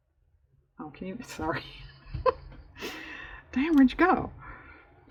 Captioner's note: laughs